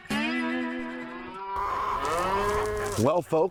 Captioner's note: steer mooing